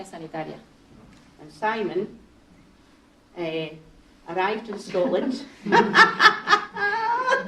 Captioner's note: laughter